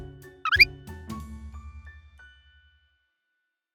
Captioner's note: squeaking